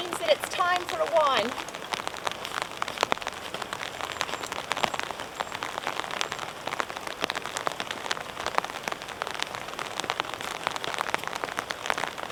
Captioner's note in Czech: zvuky silného deště